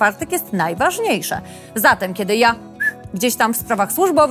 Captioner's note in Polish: gwizdnięcie